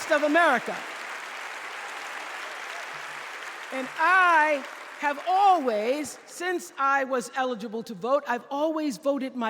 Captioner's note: applause